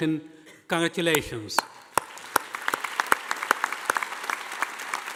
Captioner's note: audience applauding